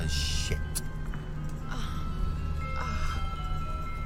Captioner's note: moans